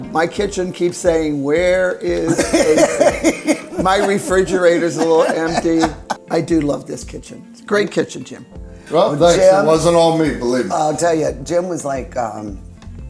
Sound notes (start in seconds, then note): 2.2 laughs